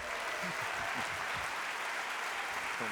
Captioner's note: applause